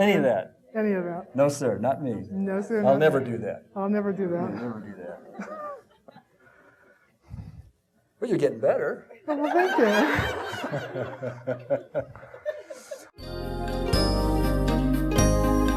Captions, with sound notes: - Any of that. - Any of that. - No sir, not me. - No sir, not me. - I'll never do that. - I'll never do that. - You'll never do that. Well you're getting better. - Oh, well thank you. (audience laughing) (soft music)